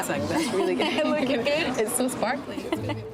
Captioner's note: laughs